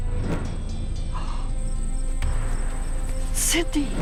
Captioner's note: gasp